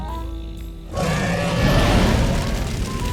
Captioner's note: dragon roars